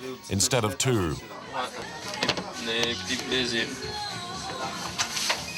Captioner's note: French spoken audio